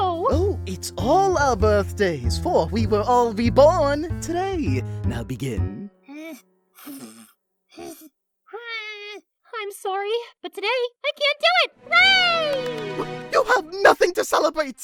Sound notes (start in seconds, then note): 5.8 clover pathetically blows; 12.2 claps